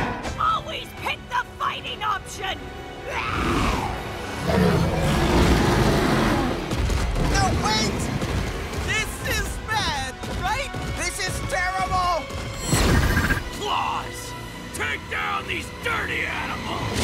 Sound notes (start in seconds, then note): 4.2 roaring; 4.3 growls